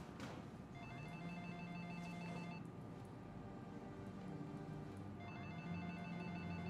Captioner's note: phone rings